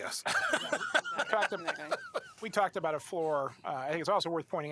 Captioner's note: laughter